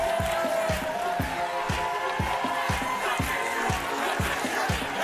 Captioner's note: audience cheering